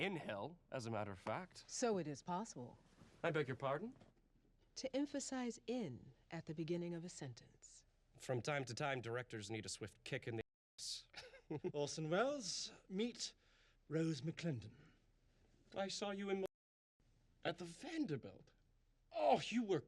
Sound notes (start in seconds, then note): 11.0 chuckles